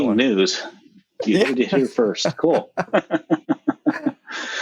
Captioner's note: laughs